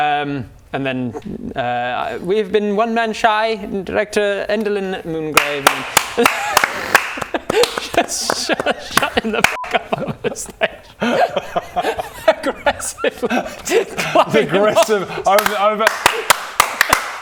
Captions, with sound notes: and then We've been One Man Shy and director Endelyn Moongrave *clap clap CLAP CLAP CLAP* Just shh shut him the f*** up on the stage aggressively! clapping him off Aggressive, I *shoooo applause*